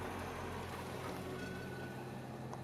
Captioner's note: train rumbling